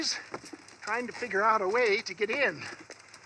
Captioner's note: sighs